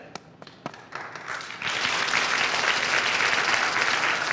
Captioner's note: audience clapping